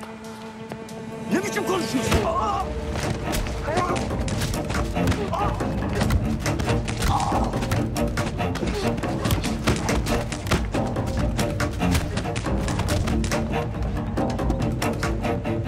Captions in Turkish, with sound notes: Ne biçim konuşuyorsun [Bağırış sesleri]